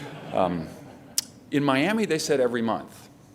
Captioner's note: laughter